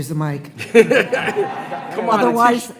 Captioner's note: attendees laughing